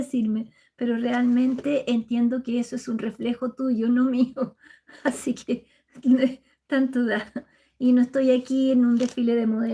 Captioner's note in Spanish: risas